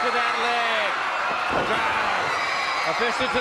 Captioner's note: crowd cheering